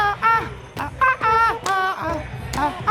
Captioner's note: hands clap